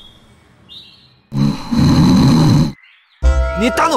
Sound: snoring

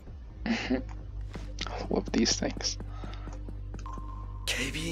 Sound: laughs

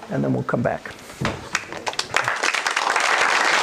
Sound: applause

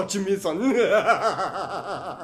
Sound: evil laugh

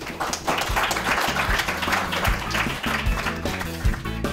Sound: applause; closing music

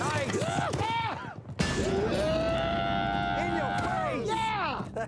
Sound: screams

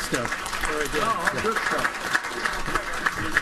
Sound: applauding

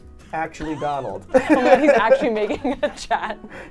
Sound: all laughing

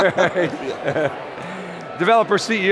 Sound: laughter

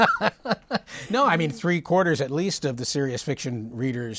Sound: laughter

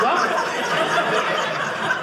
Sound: audience laughing

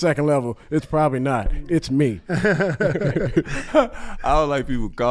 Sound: laughs

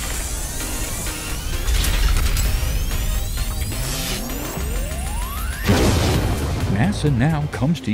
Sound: sound Effects

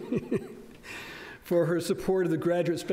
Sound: laughter

